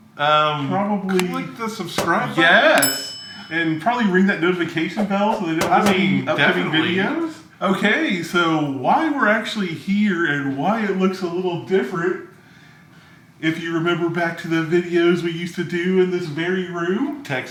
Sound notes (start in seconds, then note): 2.0 bell sound